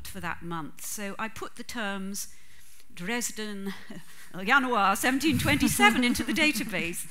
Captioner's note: laughter